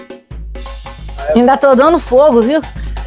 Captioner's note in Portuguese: risos